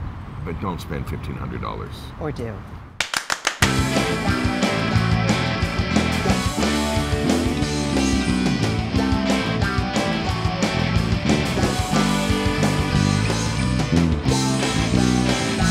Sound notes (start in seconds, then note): 3.0 claps; 3.6 soft rock music